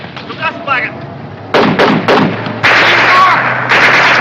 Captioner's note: shouting in german; gunshots